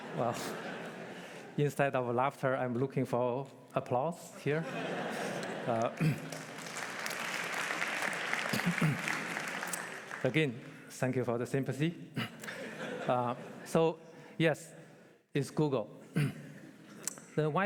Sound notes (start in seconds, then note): 5.3 applause